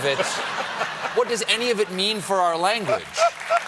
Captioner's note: laughter; applause